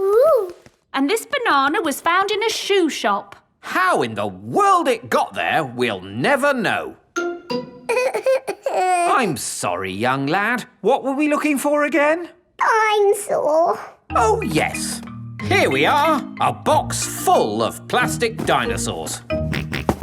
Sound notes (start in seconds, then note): 8.5 whimpers